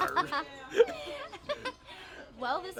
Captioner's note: laughs